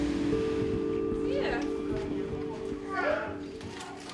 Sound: people chatter

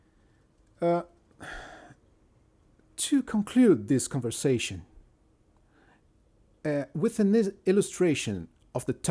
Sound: sighs

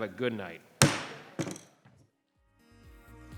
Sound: thud

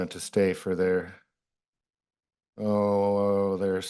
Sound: pause

